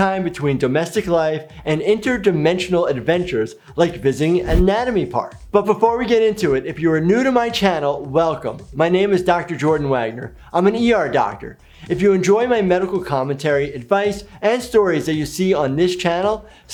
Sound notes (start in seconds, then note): none